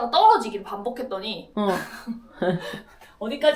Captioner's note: laughs at the memory